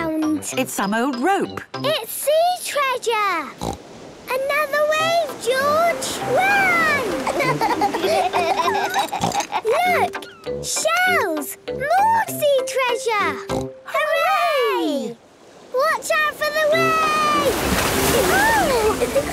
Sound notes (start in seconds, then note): 6.8 laughs; 8.8 snort